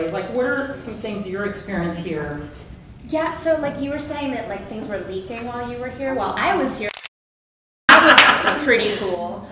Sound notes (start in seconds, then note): 6.8 camera clicks